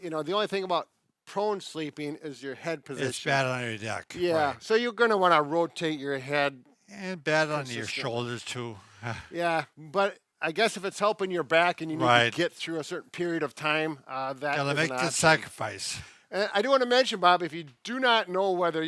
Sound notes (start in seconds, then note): 8.9 giggles